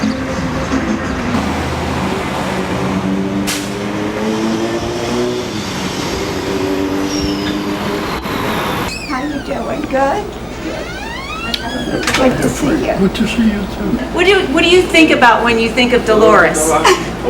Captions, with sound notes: [Street sounds] [Motorcycle revs] How ya doing? Good? Yeah. Good to see you. Good to see you too. What do you think about when you think of Dolores?